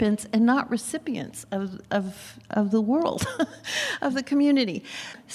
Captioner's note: laughs